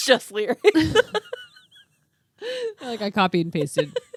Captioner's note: laughing